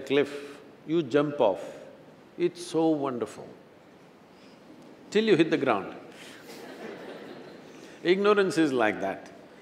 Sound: laughter

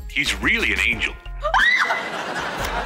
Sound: screaming

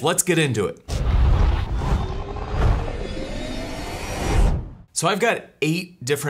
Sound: dramatic whirring

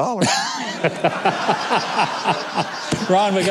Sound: people laughing

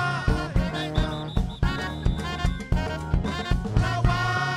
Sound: whistle tooting

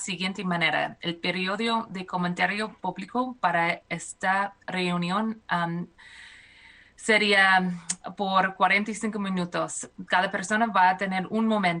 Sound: speaking spanish

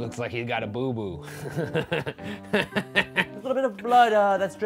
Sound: laughing

